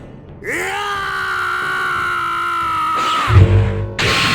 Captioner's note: Rambo shout